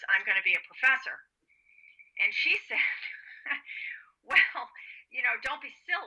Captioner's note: laughs